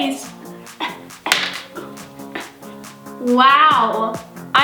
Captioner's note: exaggerated grunts